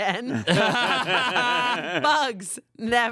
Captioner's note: everyone laughs